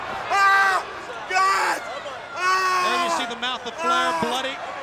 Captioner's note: screams